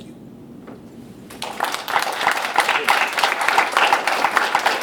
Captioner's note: applauding